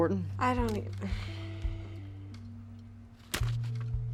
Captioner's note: Cassidy stammering